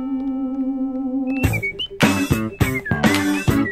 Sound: whistling

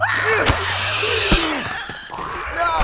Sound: Clickers shriek; squeals; Joel grunts

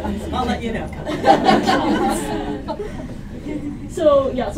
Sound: laughter

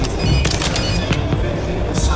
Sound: phone ringing sound

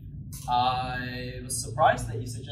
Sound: none

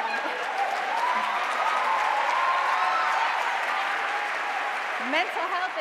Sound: audience cheering and applauding

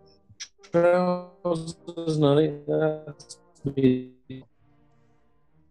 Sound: distortion

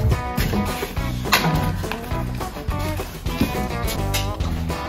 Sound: wheelbarrow clanking

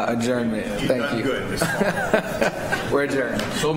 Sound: laughter

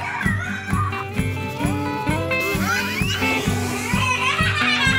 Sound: kids screaming; kids screaming/laughing

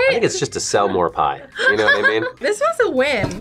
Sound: laughs

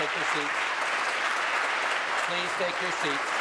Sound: applause

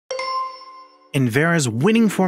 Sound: a bell chimes

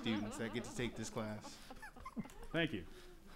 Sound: laughing

